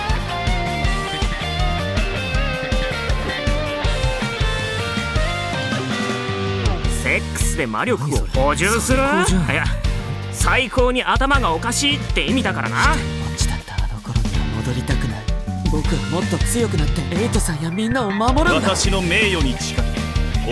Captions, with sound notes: each blessed by the elemental spirits of Light, Dark, Wood, Fire, and Water. Replenish your essence levels by having sex!? So awesome... *cough* I mean unusual! I don't want to... be all alone again... I want to become stronger... so that I can protect Mr Eiden and the others... I swear on my honor...